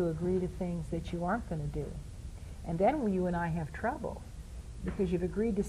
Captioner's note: in high pitched voice